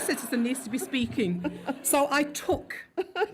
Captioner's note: laughs